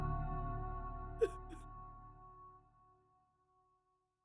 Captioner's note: weeping